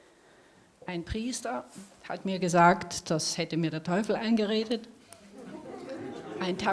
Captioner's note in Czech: smích